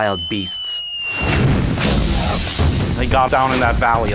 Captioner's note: explosion